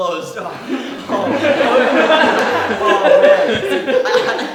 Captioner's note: audience laughing